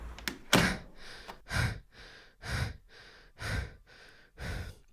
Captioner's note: panting heavily